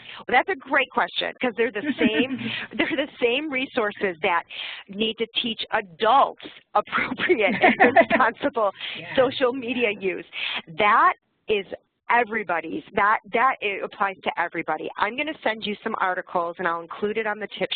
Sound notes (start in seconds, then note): 1.6 laugh; 7.0 laugh